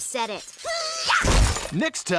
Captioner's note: Amy shouts